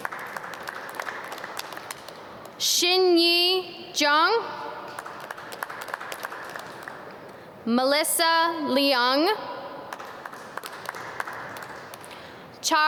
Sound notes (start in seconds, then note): 0.0 audience clap; 4.8 audience clap; 9.9 audience clap